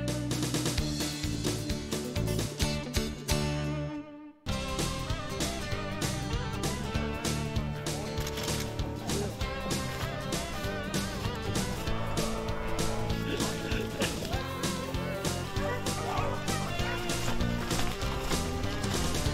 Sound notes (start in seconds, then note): 9.2 upbeat music; 15.7 dogs barking